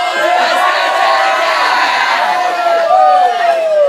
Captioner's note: class cheering